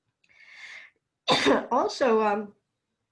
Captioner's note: coughs